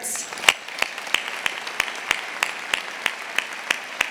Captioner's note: audience applauding